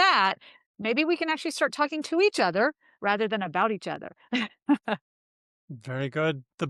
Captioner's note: laughs